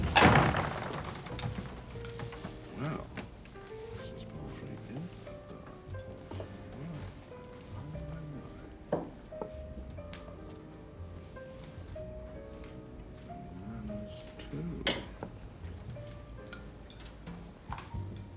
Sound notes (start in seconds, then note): 0.0 door slams; 2.9 Mr. Osborne muttering